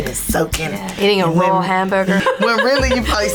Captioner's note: laughs loudly